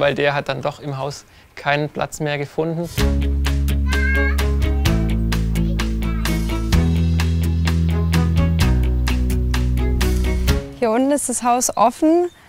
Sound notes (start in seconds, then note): 3.0 rhythmic music; 3.8 children's voices in the background